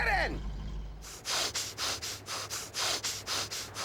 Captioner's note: huffing